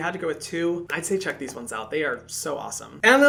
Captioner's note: sunscreens tapping